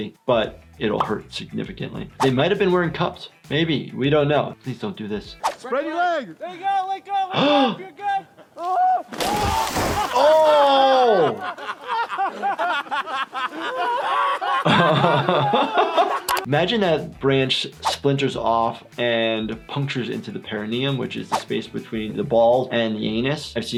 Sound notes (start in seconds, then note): 8.6 Bam screams; 11.7 Jackass crew laughing; 14.7 doctor laughs